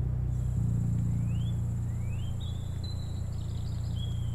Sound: birds singing

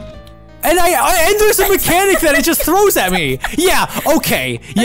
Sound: laughing

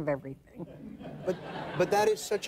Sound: audience laughs

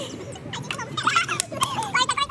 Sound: happy noises

